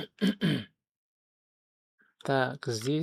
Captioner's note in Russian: откашливается